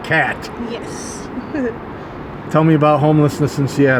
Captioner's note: giggles